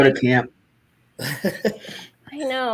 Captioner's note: chuckles